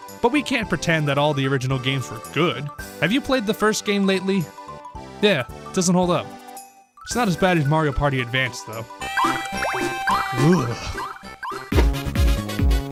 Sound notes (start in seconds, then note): 11.7 shudders